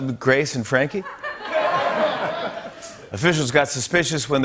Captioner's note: laughter